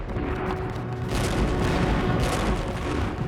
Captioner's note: gunshots